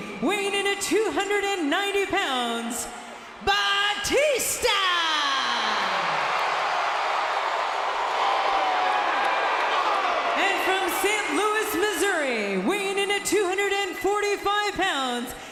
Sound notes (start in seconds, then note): 5.2 audience cheering